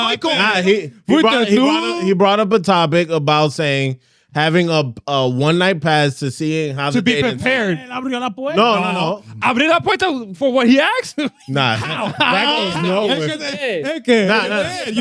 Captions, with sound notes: He brought up a topic about saying, having a one night pass to see how-- To be prepared. (Speaking In Foreign Language) No, no, no. (Speaking In Foreign Language) For what he asked? No, no. (Laughing) (Speaking In Foreign Language)